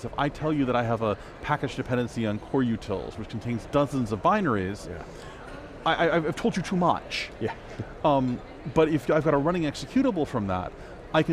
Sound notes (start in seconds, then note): 8.2 laughs